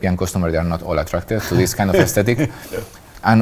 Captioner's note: laughs